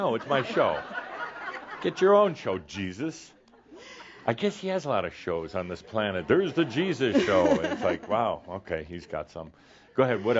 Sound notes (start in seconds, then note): 0.1 more chuckles; 5.8 laughter